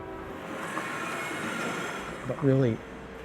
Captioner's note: car sounds drowning out speech